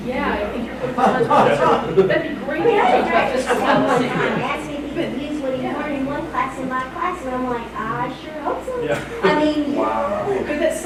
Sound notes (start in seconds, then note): 2.8 chattering